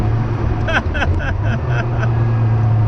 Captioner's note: chuckles